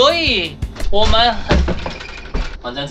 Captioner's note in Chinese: 開門聲